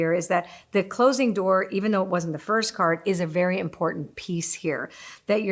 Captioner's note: none